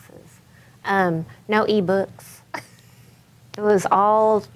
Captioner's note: chuckles